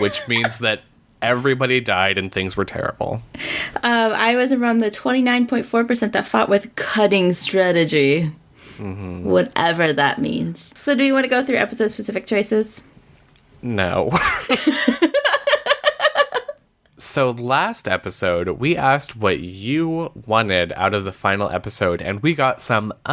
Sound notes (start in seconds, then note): 14.1 laughs